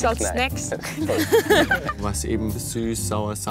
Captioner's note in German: lacht